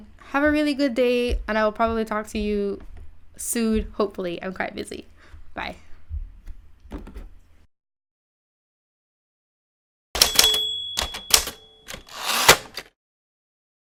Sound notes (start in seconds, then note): 10.2 bell